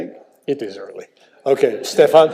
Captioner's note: audience laughs